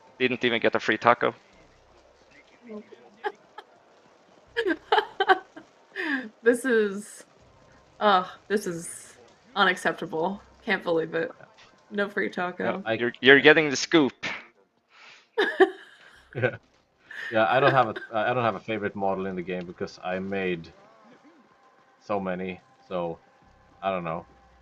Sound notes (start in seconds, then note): 4.6 laughs; 17.2 laughs